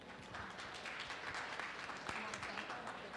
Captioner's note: audience applauds